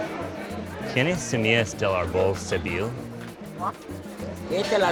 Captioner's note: conversing in Spanish